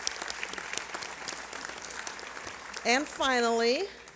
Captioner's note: applause